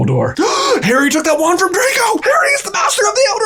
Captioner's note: gasps